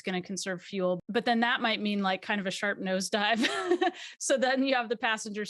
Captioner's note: laughs